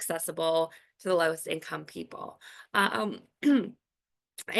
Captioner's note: clears throat